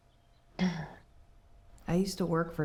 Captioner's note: Anne clears throat